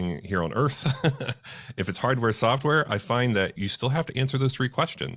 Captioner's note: laughs